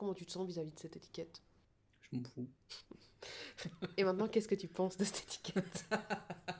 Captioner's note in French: rires